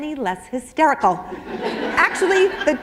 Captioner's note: laughter